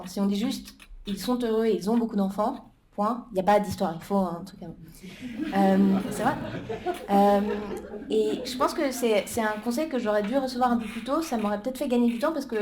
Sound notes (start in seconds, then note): 5.0 laughter